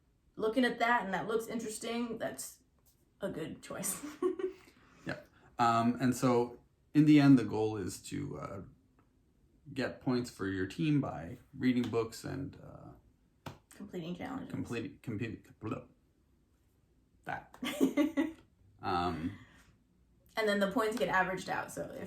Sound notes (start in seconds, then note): 14.5 trips over words